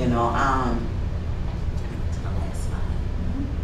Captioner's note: whispers